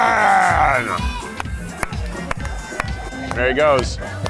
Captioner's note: clapping